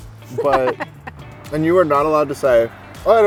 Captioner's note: laughter